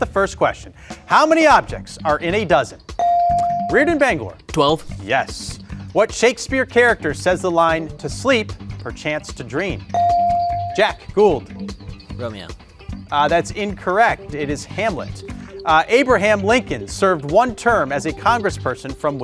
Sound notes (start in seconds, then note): 3.0 bell ringing; 9.9 bell ringing